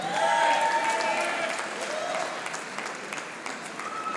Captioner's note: audience applauding